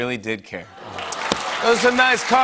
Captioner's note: audience "Awws"